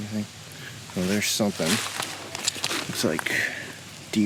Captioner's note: leaves rustling